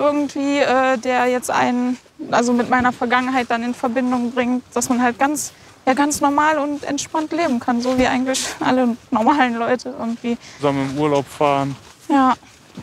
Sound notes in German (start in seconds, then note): 7.6 verlegen lachend